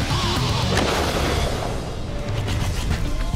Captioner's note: gunshot